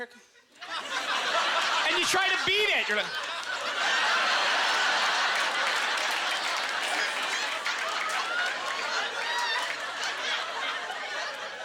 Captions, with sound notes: "Oh, here it comes..." And you try to beat it! You're like... (Audience laughter)